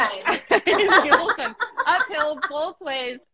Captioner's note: both laughing